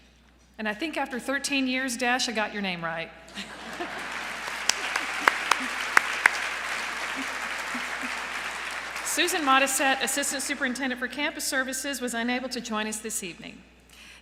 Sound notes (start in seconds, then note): 3.3 applause